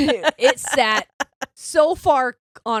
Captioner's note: laughing